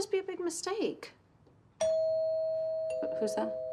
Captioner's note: doorbell rings